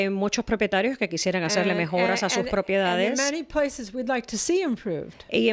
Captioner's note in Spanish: Hablando ingl\s